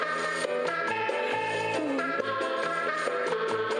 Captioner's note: person gasping